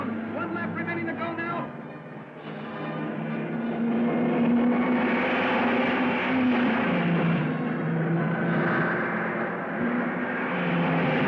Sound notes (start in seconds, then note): 2.0 dramatic music; 2.4 cars revving